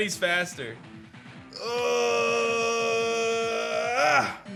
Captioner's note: grunts